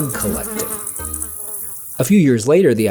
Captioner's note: insect buzzing